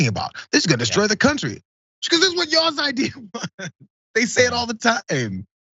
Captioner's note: laugh